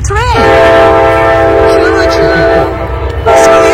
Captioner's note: train sound